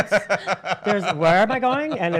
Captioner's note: laughs